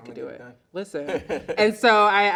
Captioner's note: laughs loudly